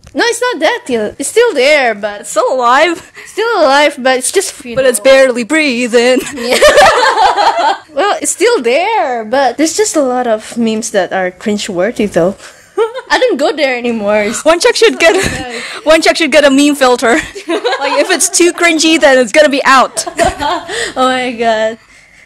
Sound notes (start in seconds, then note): 4.7 singing; 6.4 flood of laughter; 12.1 giggle; 15.2 wheeze; 17.1 laughs; 20.7 laughs